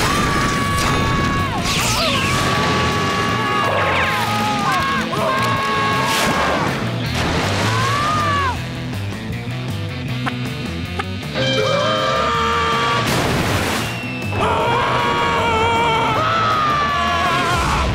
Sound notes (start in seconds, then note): 0.0 screaming; 7.6 screaming; 11.5 screaming; 13.0 splashing; 14.3 screaming